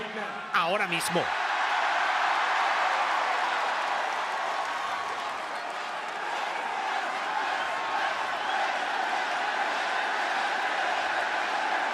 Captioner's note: applause